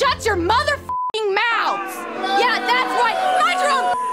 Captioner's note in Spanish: booing